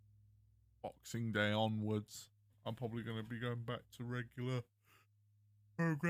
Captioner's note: yawn